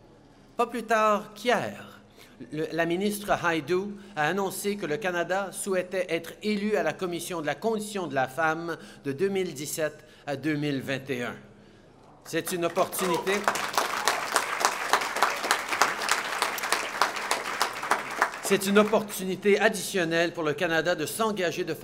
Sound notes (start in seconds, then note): 12.2 applause